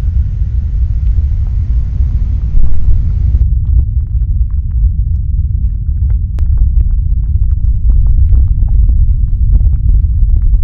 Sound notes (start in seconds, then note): 4.2 deep earthly rumbling starts and gradually increases in volume and frequency